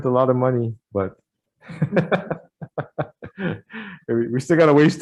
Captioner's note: laughs